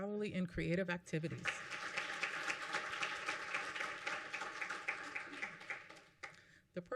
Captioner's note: applause